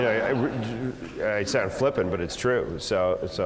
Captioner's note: laugh